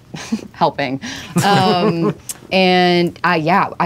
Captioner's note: laughter